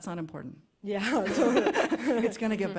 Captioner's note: laughter